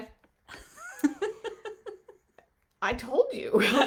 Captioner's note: laughing